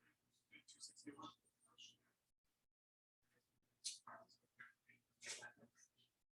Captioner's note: people chattering indistinctly